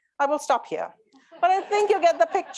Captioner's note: audience laughing